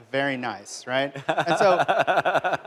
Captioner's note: laughter